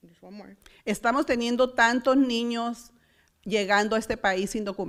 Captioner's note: foreign language